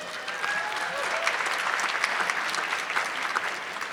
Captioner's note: audience clapping